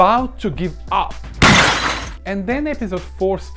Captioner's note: tv crashing sfx